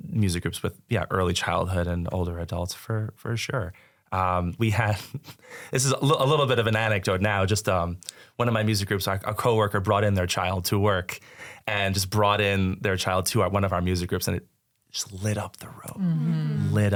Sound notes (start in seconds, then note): 5.1 chuckles